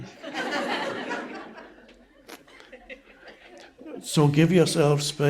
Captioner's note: audience members laughing